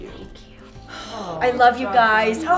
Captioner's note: deep sighing